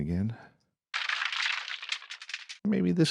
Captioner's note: crashing